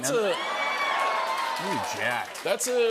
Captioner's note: cheers and applause